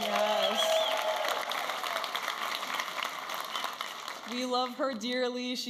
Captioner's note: audience applauding and cheering